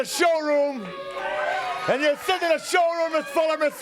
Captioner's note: crowd cheering